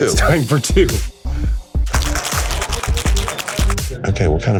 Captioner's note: shaking